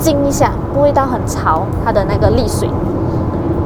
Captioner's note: the sound of the engine accelerating